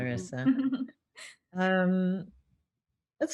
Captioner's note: laughs